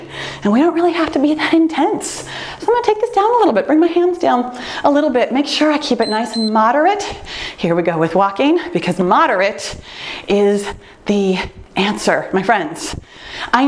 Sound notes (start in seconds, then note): 6.0 timer beeps